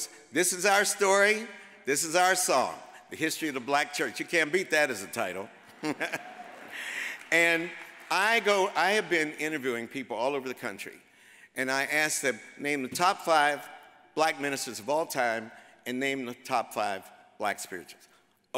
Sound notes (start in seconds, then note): 5.6 chuckles